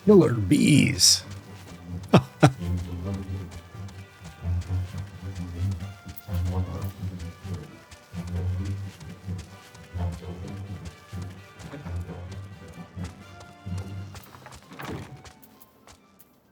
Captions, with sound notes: Killer bees. [laughs]